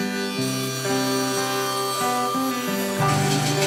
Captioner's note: sawing